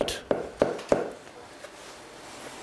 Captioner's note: hammering